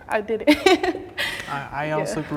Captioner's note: laughing